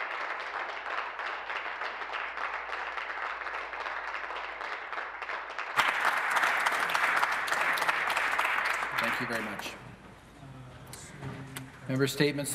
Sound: applause

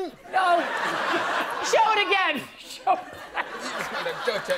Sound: laughter

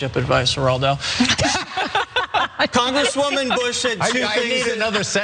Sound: laugh

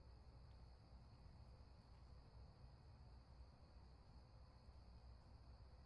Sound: crickets chirping in distance

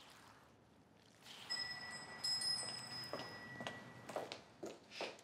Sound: wind chime rings

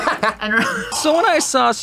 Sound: laughs

